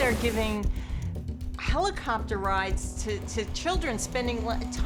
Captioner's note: plane engine roaring